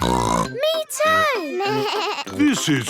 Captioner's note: snorts; bleating